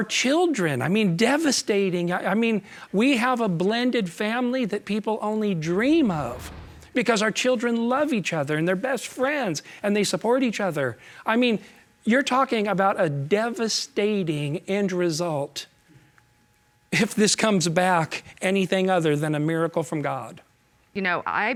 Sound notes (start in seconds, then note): none